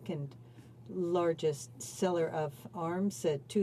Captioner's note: speaking French